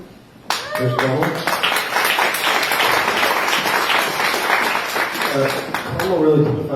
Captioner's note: applause